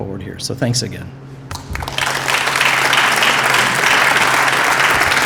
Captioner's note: applause